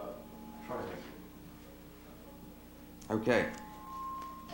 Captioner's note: chatter